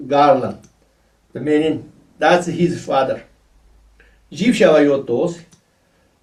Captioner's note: tibetan; tibetan